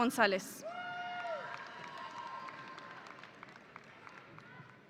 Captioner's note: audience applauding